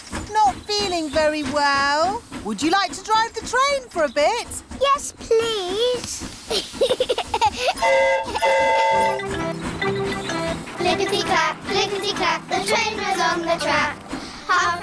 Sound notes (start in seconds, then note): 6.4 giggles; 7.8 train horn toots